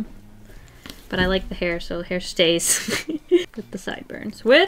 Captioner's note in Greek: Γέλια